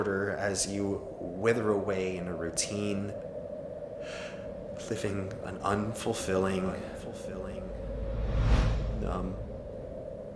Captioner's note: inhale